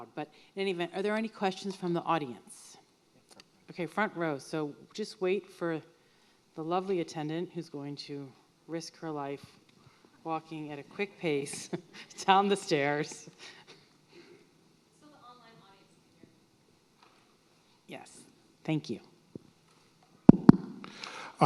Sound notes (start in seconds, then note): 11.4 laughs